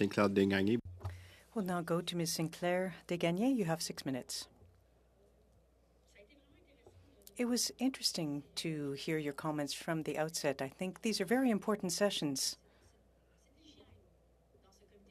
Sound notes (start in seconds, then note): 3.2 speaking French